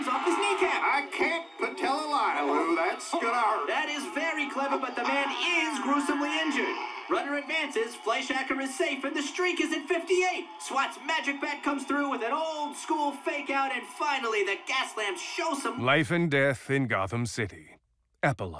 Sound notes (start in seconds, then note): 3.2 groaning